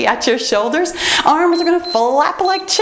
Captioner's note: timer beeps